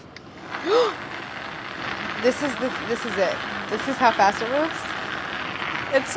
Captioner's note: gasps